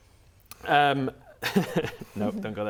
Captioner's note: laughs